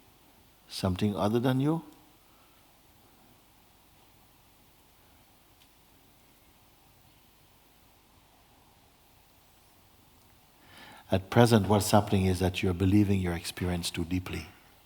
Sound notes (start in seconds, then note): 4.3 silence